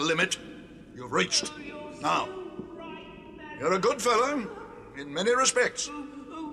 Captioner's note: cries